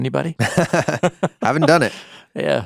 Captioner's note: chuckling